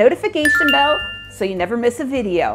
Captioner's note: bell ringing